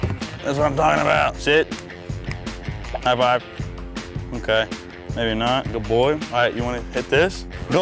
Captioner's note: snapping